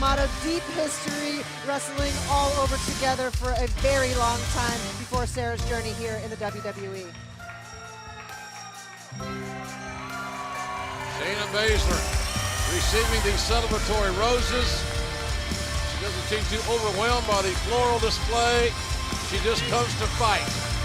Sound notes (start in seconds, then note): 9.2 cheers and applause